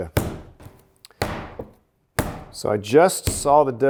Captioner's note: dough pounding